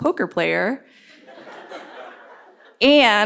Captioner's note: laughter